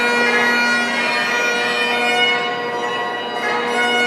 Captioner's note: bell